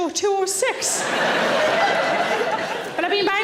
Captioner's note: audience laughing